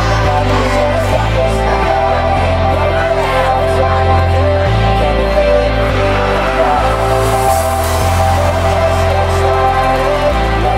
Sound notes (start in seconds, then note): 0.2 distant clapping and cheering; 2.4 distant chanting; 6.0 distant cheering; 8.4 distant cheering, pride bells ringing